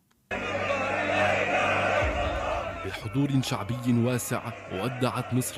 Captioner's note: Bertepuk tangan